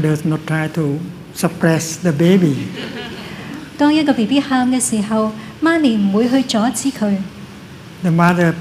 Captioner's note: laughter